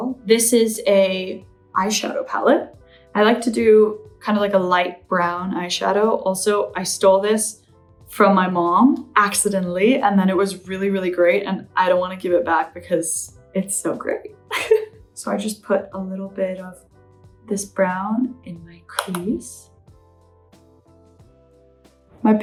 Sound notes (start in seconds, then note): 14.5 laughs; 19.6 gentle upbeat music